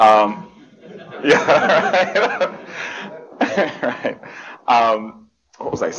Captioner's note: laughter